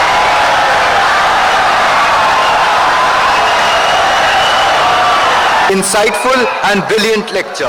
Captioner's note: wild applause and cheering for 17 seconds